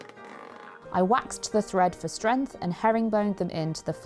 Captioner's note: wax creaking over the thread